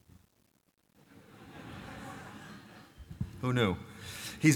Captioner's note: laughter